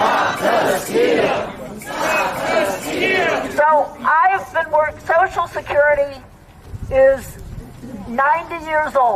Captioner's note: chanting